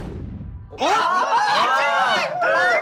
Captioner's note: scream